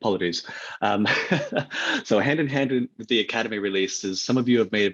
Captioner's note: laughs